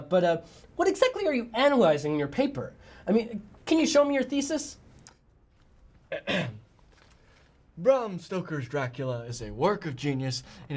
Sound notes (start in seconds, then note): 6.1 clears throat